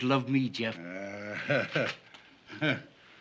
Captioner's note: chuckles